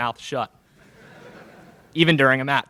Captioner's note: laughter in crowd